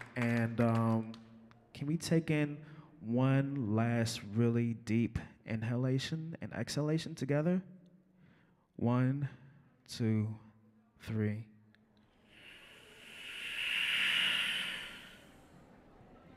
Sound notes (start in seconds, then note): 12.0 all inhaling